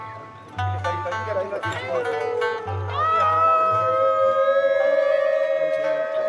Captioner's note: speaking in foreign language